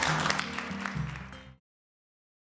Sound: clapping

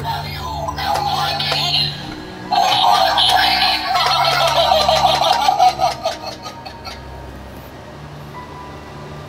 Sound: creepy sounds

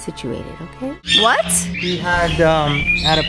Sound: bird squawking

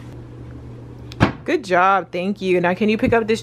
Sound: door thuds

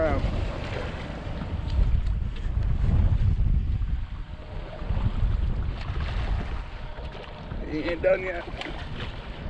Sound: fish splashing

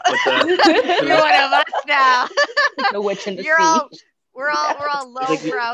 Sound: everyone laughs

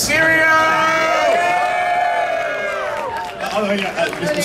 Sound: audience cheering

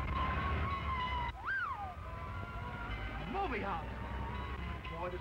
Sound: whistles

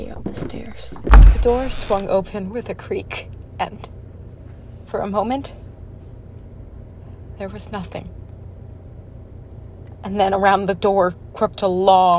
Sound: door creaks open, knocking ends

